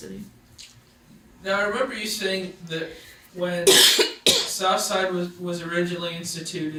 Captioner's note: coughs